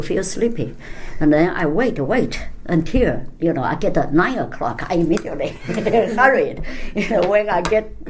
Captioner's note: laughs